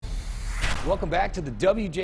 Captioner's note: logo swooshes